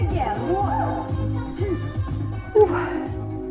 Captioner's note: Jane Fonda's voice fades